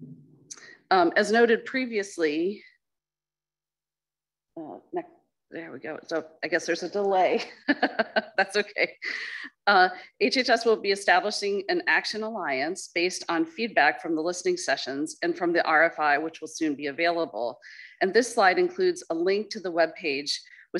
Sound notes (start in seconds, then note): 7.8 laughs